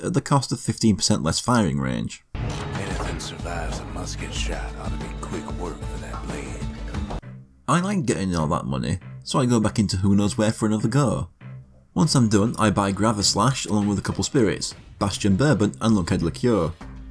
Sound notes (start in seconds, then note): 2.3 in-game audio; 16.8 in-game audio